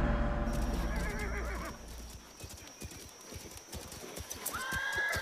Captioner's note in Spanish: Relincho